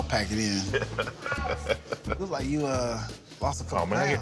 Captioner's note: laughing